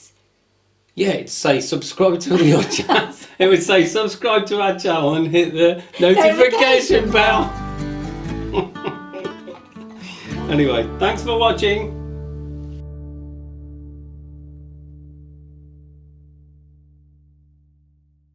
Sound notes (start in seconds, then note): 2.3 laughs; 8.4 laughs; 9.5 soft guitar music